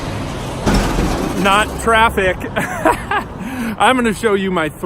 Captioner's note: laughs